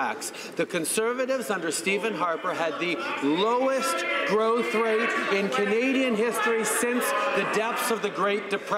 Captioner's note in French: voix de l'interprte